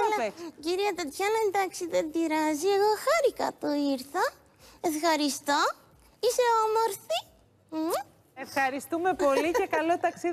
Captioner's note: kiss